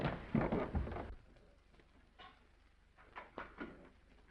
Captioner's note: footsteps receding